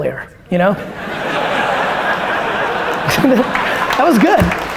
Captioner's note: audience laughter and applause